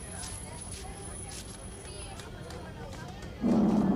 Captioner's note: people chattering; plane engines roaring